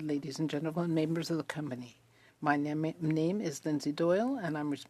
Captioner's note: speaking French